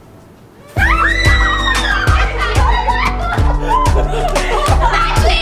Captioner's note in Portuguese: Todo mundo berrando ao ver o Kyle